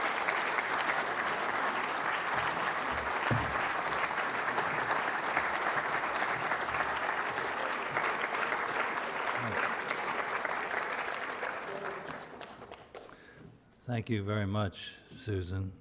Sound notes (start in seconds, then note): 2.4 applause